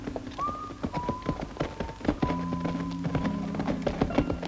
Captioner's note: horses clattering